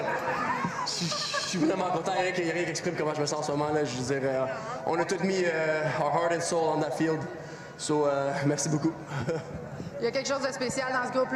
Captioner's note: continuing in french